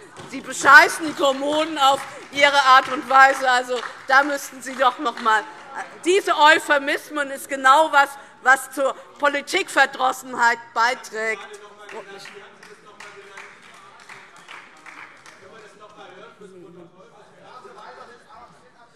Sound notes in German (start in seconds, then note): 4.0 Beifall DIE LINKE und vereinzelt SPD